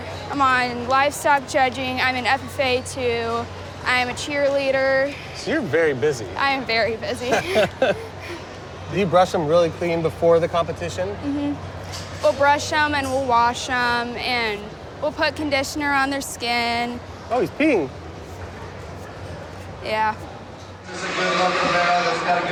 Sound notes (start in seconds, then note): 7.2 laughs